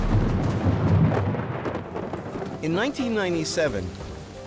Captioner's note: thunder